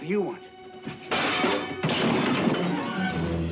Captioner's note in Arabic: أصوات الأطباق; موسيقى درامية